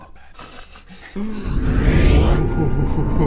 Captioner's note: vwoooosch